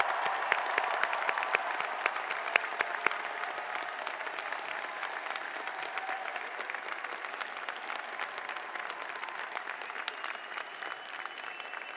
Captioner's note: cheers and applause